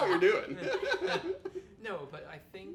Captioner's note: laughing